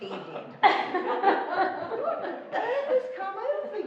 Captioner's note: laughing